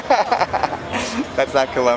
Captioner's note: laughter